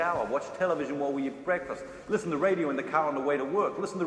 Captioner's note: none